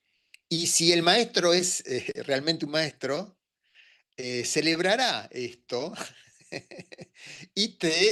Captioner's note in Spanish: risas